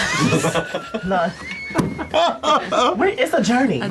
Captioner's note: laughter